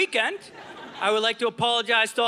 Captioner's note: audience laughing